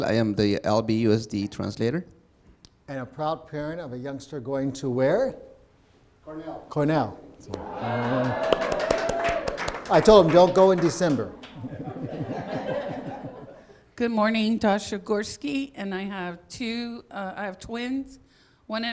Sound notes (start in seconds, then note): 7.5 cheering and applause; 12.2 laughing